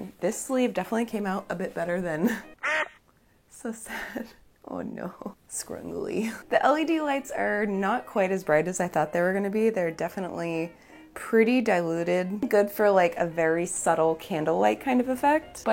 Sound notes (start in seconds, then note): 2.6 duck quacking